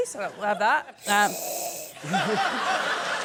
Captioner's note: snoring noise